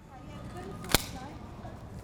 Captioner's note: crack!